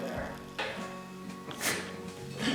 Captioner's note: snort